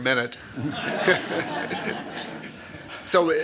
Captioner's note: laughter